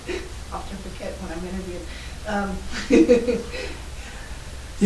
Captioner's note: laughing; laughing